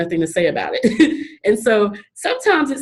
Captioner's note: chuckles